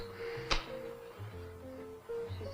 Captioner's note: match striking